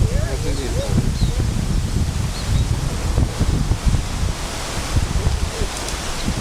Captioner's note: people Talking in Background, Birds Chirping